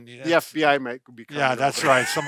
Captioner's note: laughs